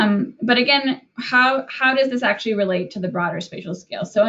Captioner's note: none